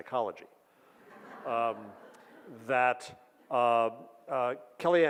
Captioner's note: audience laughs